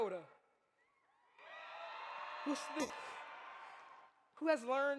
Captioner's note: audience cheers